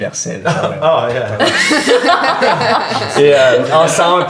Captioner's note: laughter